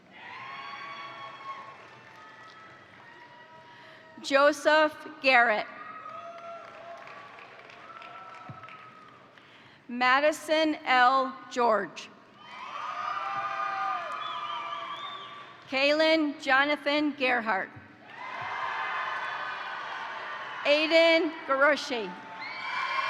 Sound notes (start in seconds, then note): 0.0 crowd cheering; 0.4 crowd applauding; 5.9 crowd cheering; 6.0 crowd applauding; 12.4 crowd cheering; 12.4 crowd applauding; 18.0 crowd applauding; 18.0 crowd cheering; 22.1 crowd cheering; 22.9 crowd applauding